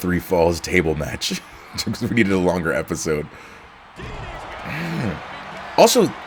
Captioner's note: laugh